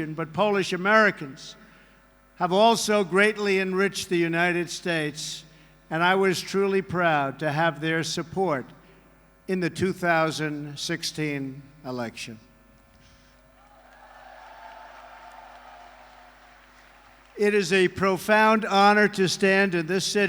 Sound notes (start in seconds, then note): 13.7 applause